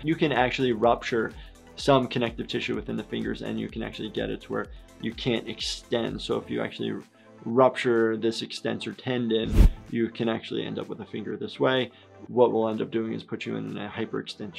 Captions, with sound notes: You can actually rupture some connective tissue within the fingers, and you can actually get it to where you can't extend. So if you actually rupture this extensor tendon, (air whooshes) you can actually end up with a finger this way. What we'll end up doing is put you in a hyperextension splint